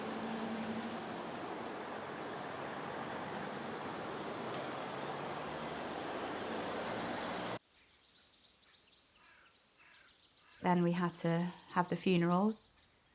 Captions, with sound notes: [engines revving] [birds chirping] Then we had to have the funeral.